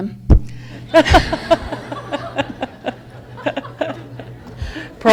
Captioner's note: audience laughs